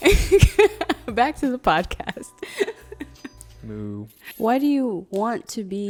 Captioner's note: laughs